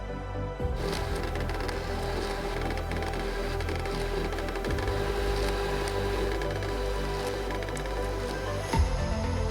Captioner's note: inspiring music; creaking sound; inspiring music